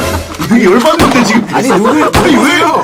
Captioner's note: agitated